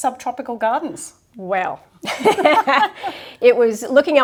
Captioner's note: both laugh